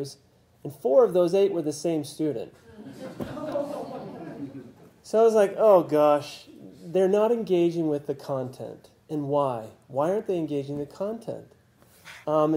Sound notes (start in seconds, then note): 2.6 laugh